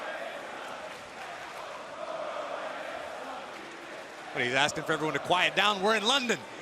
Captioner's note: crowd cheering